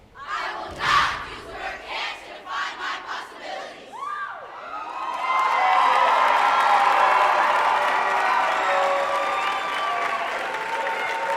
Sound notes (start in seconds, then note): 4.0 audience cheering; 4.9 applauding